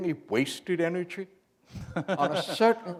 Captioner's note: chuckle